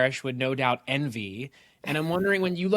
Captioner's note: chuckles